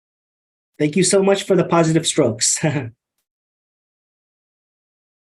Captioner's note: chuckles